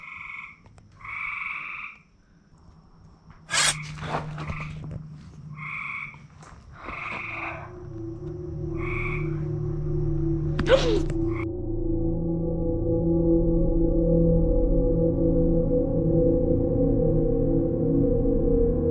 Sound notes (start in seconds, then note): 3.4 metallic scraping sound; 6.8 eerie, suspenseful music; 10.6 muffled gasp